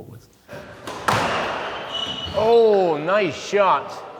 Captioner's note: bang